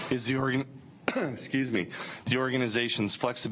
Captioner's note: coughing